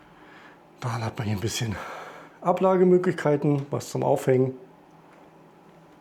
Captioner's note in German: seufzt